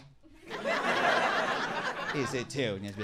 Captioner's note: audience laughing